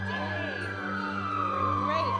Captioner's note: sirens